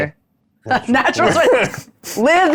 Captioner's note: chuckling; participant chuckling